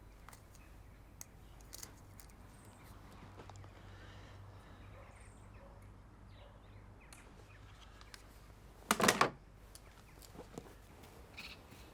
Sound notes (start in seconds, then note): 8.9 photo frame clatters